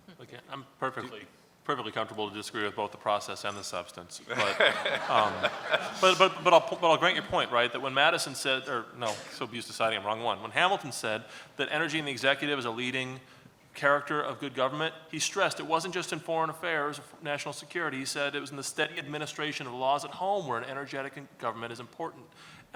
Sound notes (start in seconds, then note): 4.3 laughs